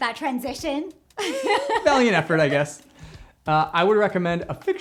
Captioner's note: laughs